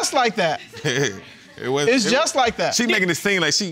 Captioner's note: chuckles